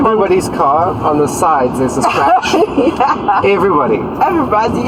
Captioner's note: laughs